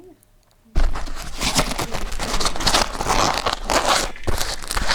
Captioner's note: microphone moving